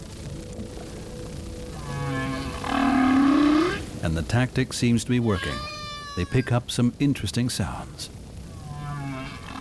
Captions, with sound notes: [whale calling] And the tactic seems to be working: they pick up some interesting sounds.